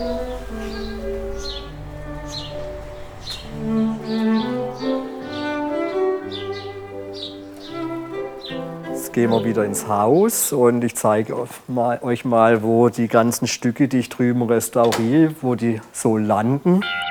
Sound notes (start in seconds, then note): 1.3 birds chirping